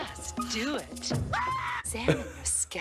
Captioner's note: Homer screams